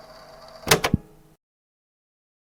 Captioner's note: click